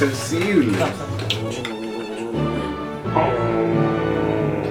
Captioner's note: mamachichi growling